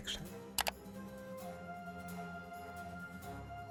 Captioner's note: click